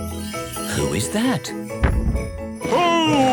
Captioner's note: thump!